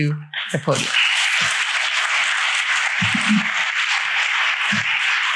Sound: applause

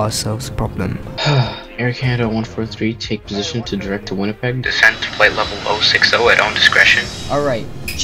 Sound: sigh

